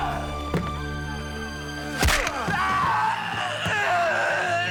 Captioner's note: groaning